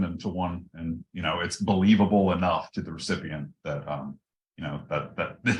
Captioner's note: laugh